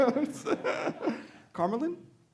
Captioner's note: laughing